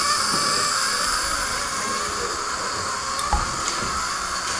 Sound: suction air swooshes

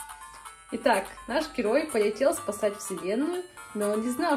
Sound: reads in Russian

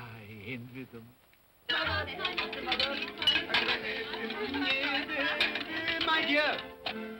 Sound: indistinct chatter & dinnerware clattering

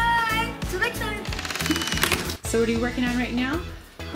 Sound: door creaking

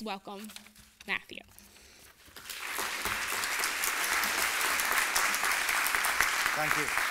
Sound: applause

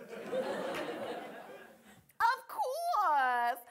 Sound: audience laughing

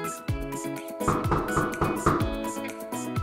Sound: knock, knock, knock!

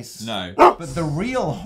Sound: dog bark

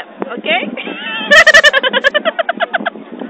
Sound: laughter

